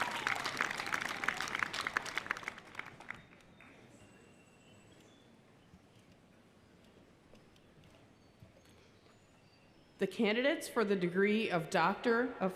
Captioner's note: applause